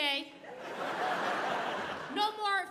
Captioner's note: audience laughing